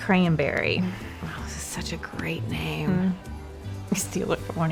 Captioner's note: says sarcastically